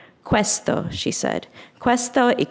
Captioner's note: speaks in foreign language